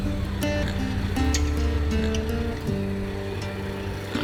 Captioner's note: pigs grunting